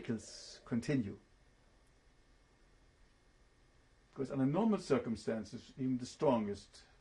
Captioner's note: pauses for 3 seconds